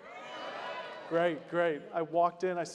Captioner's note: crowd applauding